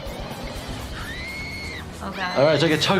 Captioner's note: woman screaming